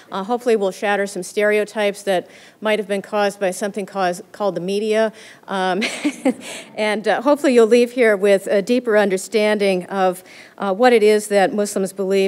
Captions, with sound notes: Hopefully, we'll shatter some stereotypes that might have been caused by something called the media. [laughter] And hopefully you'll leave here with a deeper understanding of what it is that Muslims believe